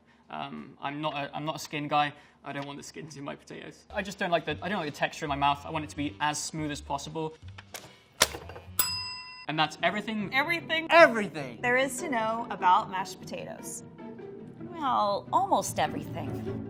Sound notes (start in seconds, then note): 8.7 bell dings